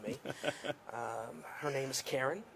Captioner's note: laughs